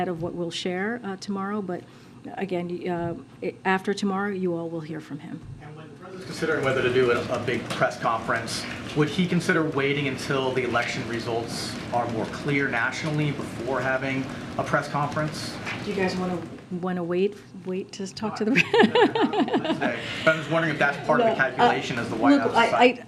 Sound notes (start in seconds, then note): 18.5 laughs